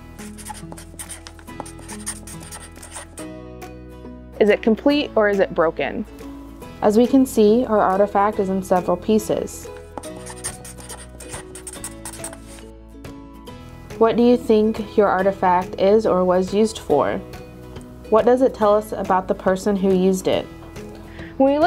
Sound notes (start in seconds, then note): 0.2 marker scratching on paper sounds; 9.9 marker scratching on paper sounds